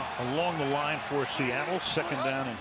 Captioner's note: cheering